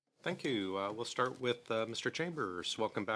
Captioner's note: speaking French